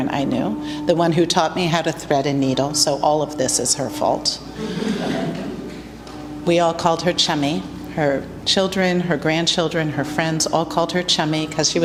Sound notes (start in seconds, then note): 4.6 laughter